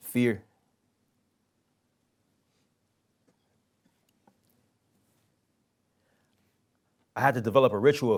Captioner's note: pause